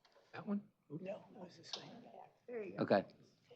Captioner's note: indistinct chatter